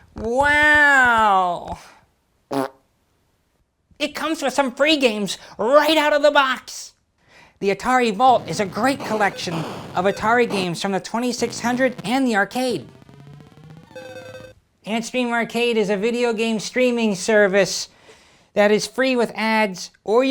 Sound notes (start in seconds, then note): 2.5 fart